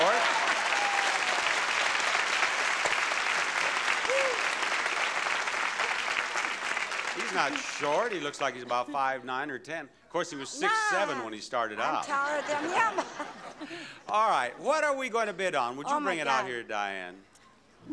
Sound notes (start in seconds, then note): 0.0 audience applauding; 13.3 laughs